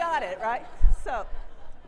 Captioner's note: audience laughs